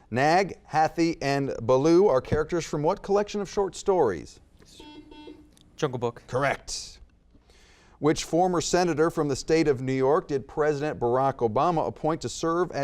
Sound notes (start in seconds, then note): 4.7 buzzer beeps